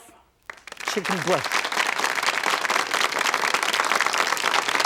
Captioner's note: audience applauding